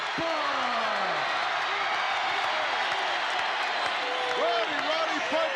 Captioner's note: audience cheering